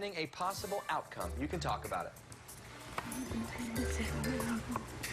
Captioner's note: none